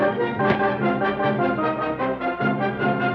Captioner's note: thud